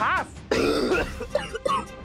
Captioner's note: coughs